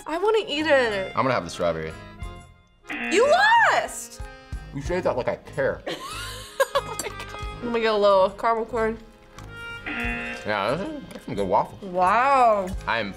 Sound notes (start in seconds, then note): 2.8 buzzer rings; 5.9 laughs; 9.8 buzzer rings